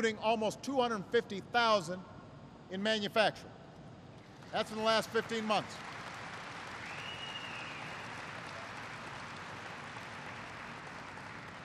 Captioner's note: applause